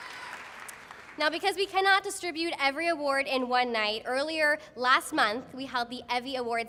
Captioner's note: applause